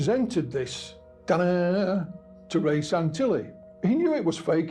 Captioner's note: mimics dramatic tone